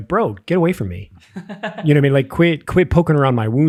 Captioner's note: innocent chuckling